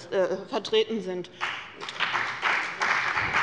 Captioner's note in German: Beifall bei dem BÜNDNIS 90/DIE GRÜNEN und bei Abgeordneten der CDU